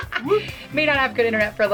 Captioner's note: laughing